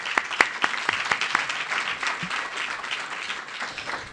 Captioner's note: applause